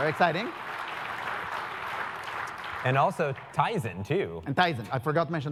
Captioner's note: applause